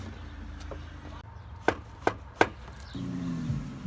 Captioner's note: knock knock knock